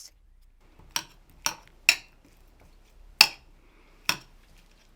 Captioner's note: spoon clunking